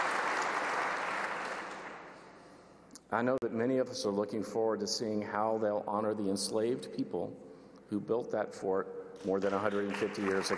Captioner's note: applause